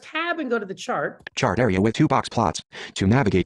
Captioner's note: voiceover